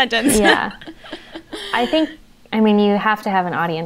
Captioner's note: they laugh